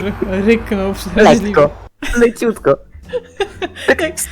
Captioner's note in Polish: śmiech